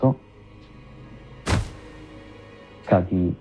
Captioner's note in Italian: Tunk